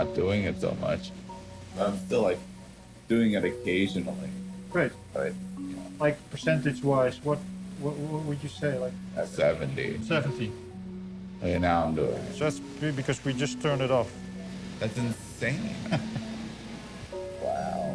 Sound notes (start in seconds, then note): 6.4 murmurs; 15.6 chuckles